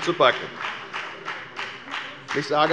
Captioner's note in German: Beifall bei der FDP